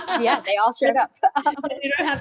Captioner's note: laughs